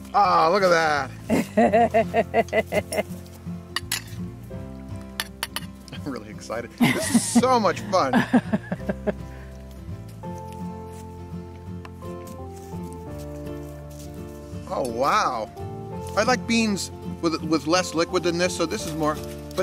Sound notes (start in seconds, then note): 1.2 chuckles; 3.8 ladle clanks against bowl; 6.8 chuckles; 13.5 mellow electronic music